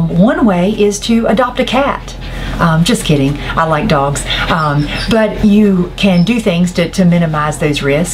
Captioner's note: laughing